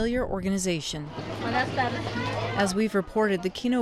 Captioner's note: woman speaks in foreign language